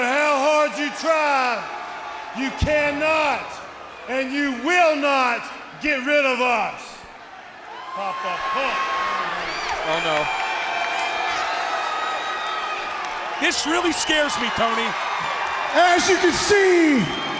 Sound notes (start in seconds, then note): 10.3 crowd cheering